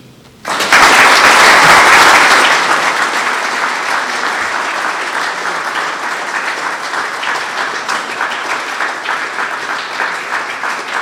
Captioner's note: applause